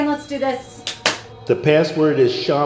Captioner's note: hands clap